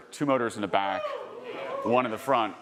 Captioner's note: audience cheering